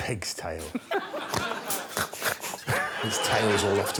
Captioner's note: Greg snuffles